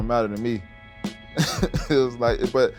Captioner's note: laughing